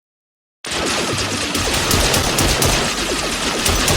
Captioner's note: guns blasting